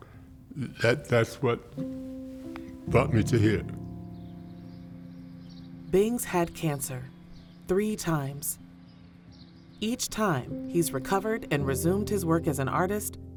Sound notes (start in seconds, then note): 4.0 birds chirping; 4.0 gentle melancholy music